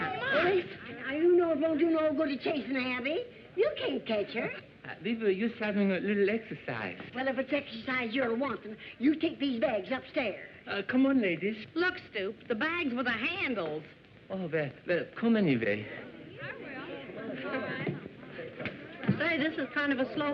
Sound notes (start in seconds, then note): 15.1 chatter